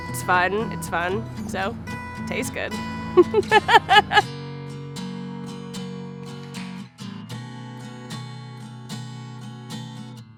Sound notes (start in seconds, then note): 3.2 laughing; 5.8 cool guitar music